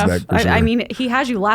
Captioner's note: laughs